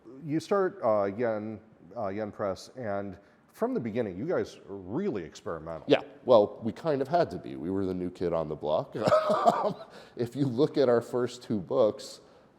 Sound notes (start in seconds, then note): 9.0 chuckles